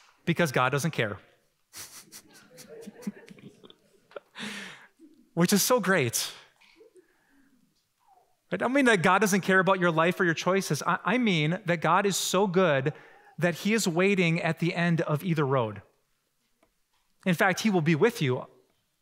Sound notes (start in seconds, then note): 1.8 laughing